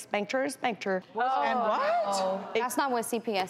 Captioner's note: interviewers Exclaiming